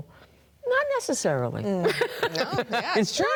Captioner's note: laughs